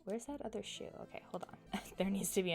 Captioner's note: chuckles